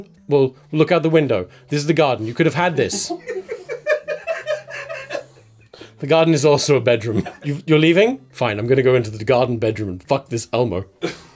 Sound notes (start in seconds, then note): 2.9 laughter; 11.0 laughter